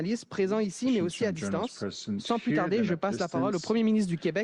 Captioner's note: speaks French